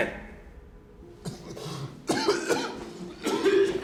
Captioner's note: coughing